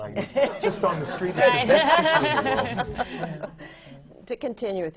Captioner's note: laughter